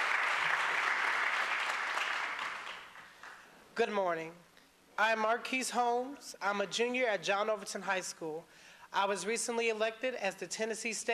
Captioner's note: applause